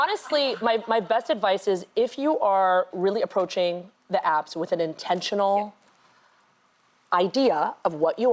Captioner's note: laughter